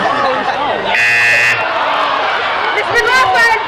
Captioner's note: buzzing